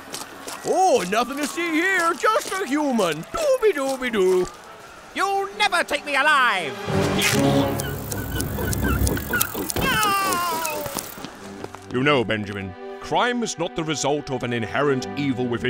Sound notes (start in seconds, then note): 8.0 scissors snipping